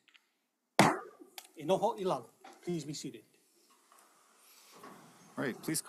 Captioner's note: gavel bangs once